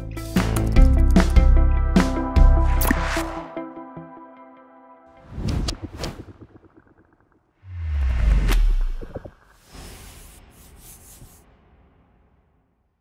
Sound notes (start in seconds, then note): 0.0 upbeat music; 2.8 screen swooshes; 5.4 icons swooshing; 7.6 logo swooshing; 7.9 letters scratching